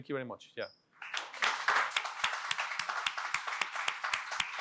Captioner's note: audience applauding